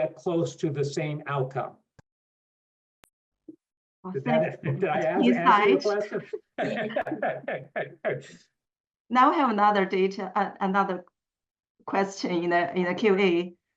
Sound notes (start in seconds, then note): 6.1 laughter